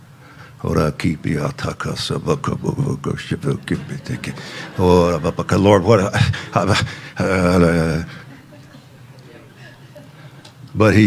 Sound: speaking in tongues

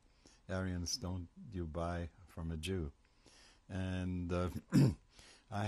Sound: german

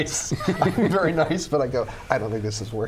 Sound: laughter; laughs

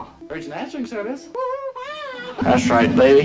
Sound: imitates California condor

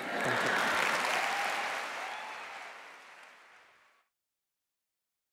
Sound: laughter; cheering and applause

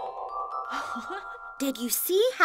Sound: laughs

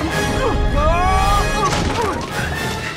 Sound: screams, grunts

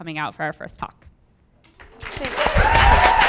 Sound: audience applauding; audience applauding and cheering

